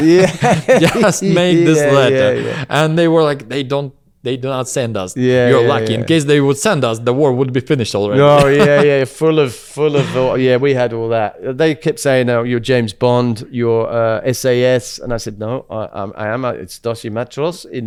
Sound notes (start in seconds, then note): 0.0 laughs; 8.2 laughs